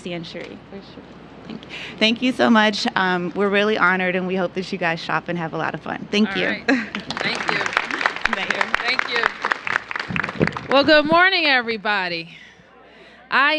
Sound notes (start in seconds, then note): 6.8 applause